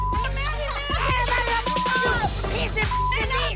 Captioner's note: people shouting indistinct